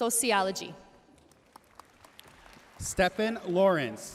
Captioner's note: audience cheering and applauding